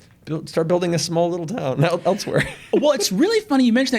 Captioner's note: chuckles